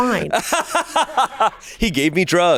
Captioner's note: laughs